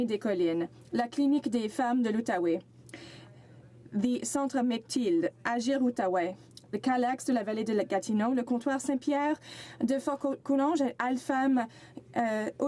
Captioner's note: speaking French